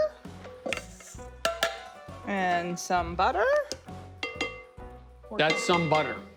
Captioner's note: pan clanging